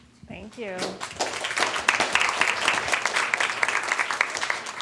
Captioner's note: applause